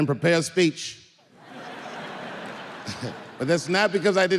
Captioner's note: audience laughing